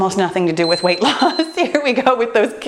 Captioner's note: timer beeping